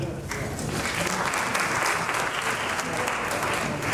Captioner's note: applause